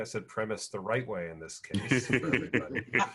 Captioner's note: laughs